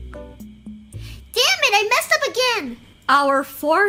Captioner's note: high-pitched voice